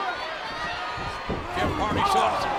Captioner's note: audience cheering